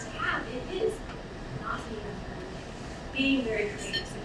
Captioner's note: speaking away from mic